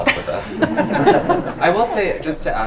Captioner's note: group laughs